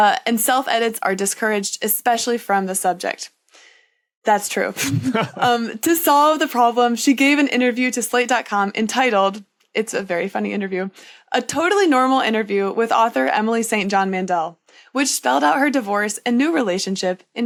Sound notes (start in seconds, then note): 4.8 cracks up; 4.8 laughs